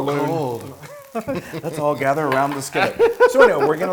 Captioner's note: laugh